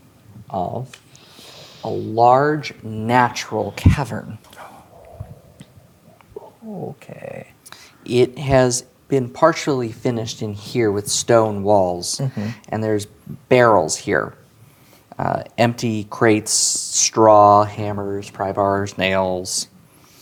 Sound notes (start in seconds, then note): 4.5 gasps; 6.2 quietly